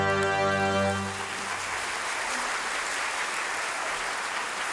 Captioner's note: audience claps